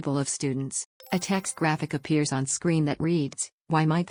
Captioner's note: chime